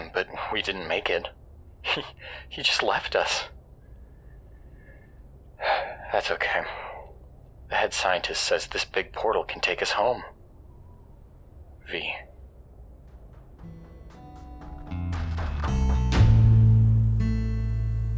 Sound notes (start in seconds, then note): 5.6 sigh; 13.1 theme plays